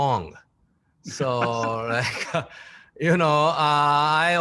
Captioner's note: laughing